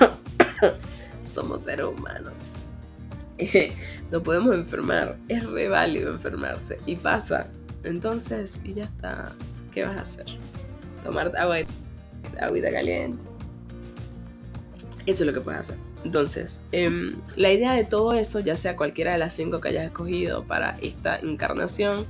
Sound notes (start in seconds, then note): 0.3 coughing dramatically